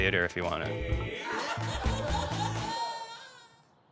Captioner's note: laughs